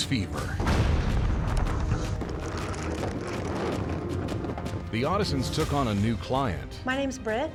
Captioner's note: explosion